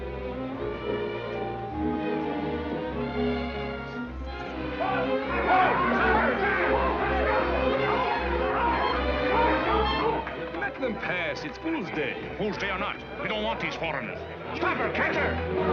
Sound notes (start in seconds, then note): 0.2 gentle music; 6.3 indistinct people chattering